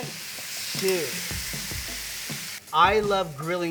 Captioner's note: pan sizzling